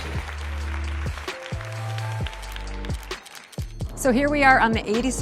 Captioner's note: audience clapping